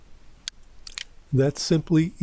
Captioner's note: PowerPoint click